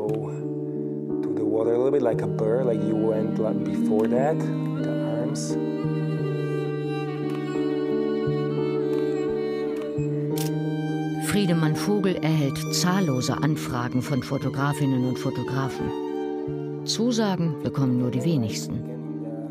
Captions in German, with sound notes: Go to the water, like a pearl ... (Ruhig bewegte Musik) (Klicken) Friedemann Vogel erhält zahllose Anfragen von Fotografinnen und Fotografen. Zusagen bekommen nur die wenigsten.